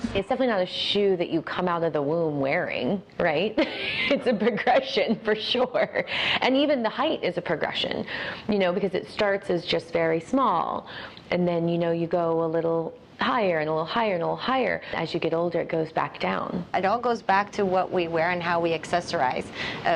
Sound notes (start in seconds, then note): 3.6 laughs